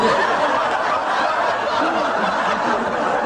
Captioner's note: laughter